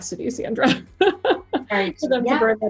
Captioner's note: laughs